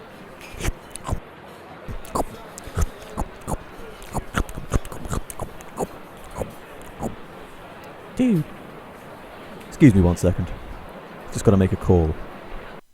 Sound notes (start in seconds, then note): 1.9 Keyaruga's gross eating sounds